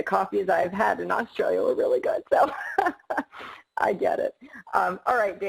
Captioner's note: laughs